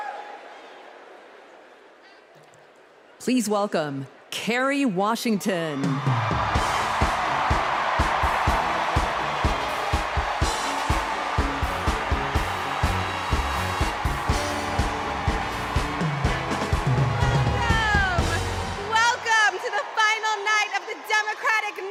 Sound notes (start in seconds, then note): 8.2 cheers and applause